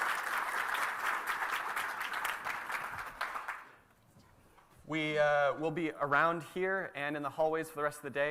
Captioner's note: applause